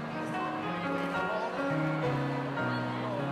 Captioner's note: none